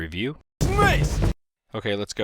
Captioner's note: game sounds